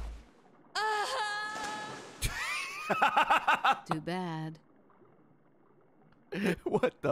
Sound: laughs

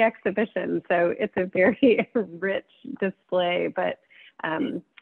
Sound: laughs

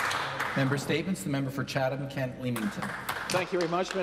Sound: applause

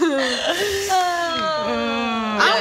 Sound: sighs in collective amnesia

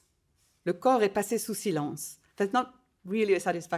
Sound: speaking in foreign language

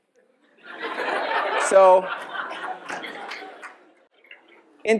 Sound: laughing

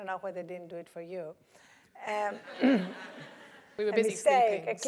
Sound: laugh; cough

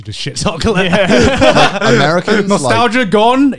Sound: laughing

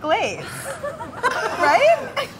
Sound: laughing

